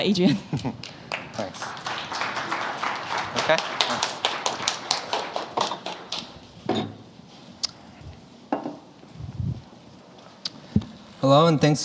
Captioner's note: applause